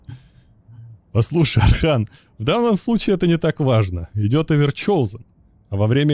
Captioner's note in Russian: откашливается